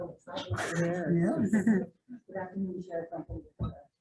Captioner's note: laughing